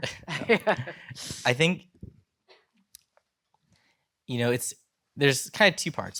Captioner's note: gulps